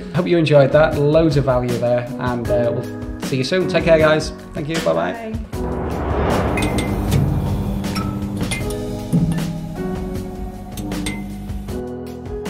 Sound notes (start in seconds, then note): 6.0 lights clinking; 8.6 mellow music